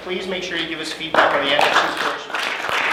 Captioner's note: applause